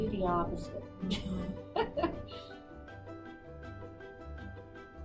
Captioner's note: laughs